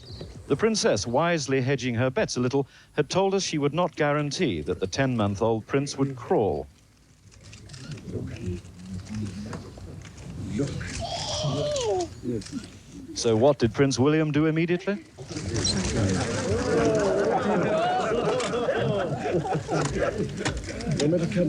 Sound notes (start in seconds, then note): 12.6 William squeals; 15.3 crowd laughing